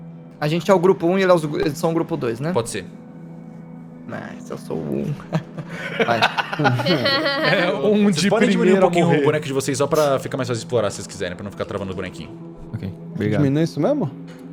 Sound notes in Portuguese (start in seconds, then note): 5.1 risos